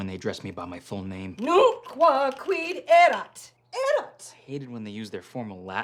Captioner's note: angrily speaking Latin